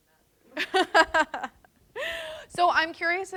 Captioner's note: laughs